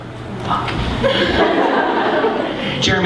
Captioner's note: laughter